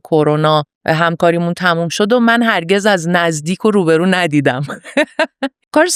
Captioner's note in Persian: خنده